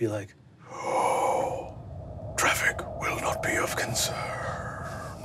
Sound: inhales dryly

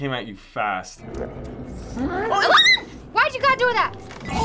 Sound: guest snarling; shrieking

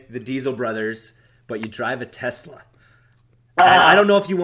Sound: groans

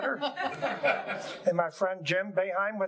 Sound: audience laughing

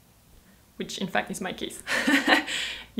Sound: chuckles

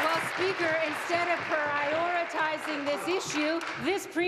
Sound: applause

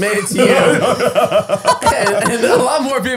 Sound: all laughing

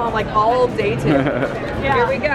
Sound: laughing

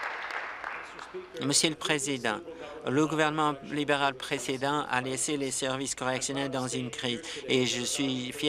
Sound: applause

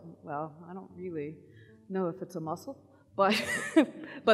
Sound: laughs

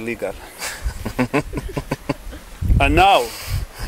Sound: laughing

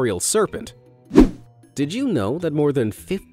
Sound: image whooshing

